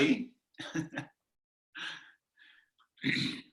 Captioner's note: laughing